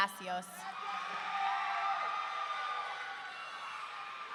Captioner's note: audience cheering